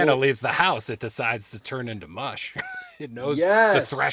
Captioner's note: laughing